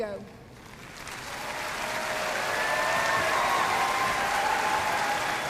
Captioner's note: audience cheering and applauding